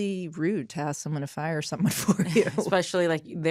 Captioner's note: chuckles